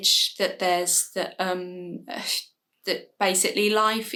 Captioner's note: stumbles on words